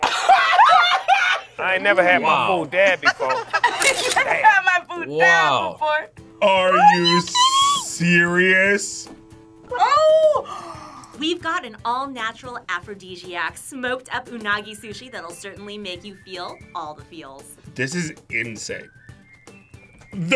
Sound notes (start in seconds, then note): 0.0 both laugh; 2.8 laughs; 10.3 gasps